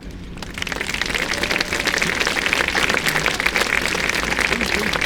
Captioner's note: applause